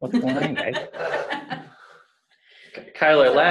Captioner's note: laughter